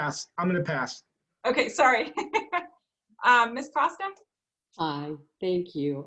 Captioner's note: laughing